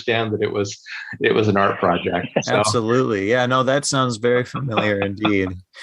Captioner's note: laughter